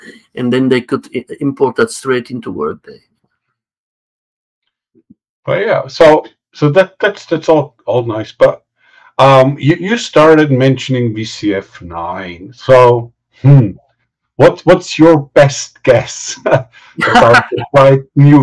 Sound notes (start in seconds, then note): 16.8 laughing